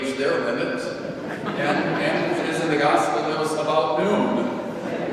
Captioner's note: congregation laughing